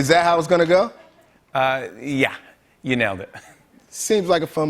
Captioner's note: chuckles